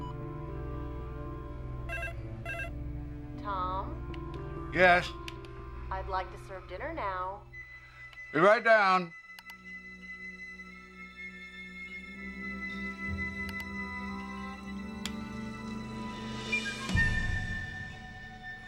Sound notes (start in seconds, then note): 1.8 phone ringing; 10.6 dramatic orchestral music continues